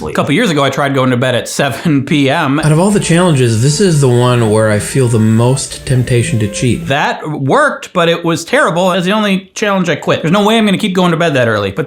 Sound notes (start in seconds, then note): 2.4 laughs